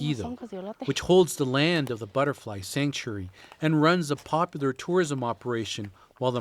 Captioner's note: speaking spanish